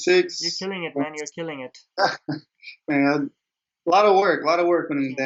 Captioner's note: laughs